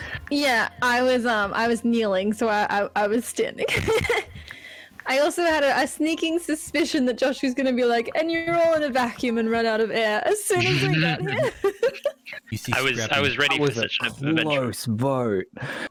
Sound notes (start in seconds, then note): 3.6 giggles; 10.6 giggle